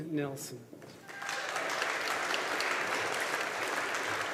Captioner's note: audience applauding